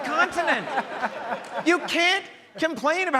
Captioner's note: audience laughs